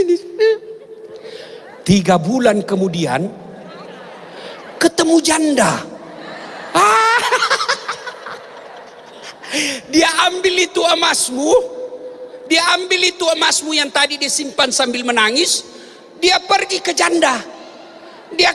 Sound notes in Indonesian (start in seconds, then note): 5.9 tertawa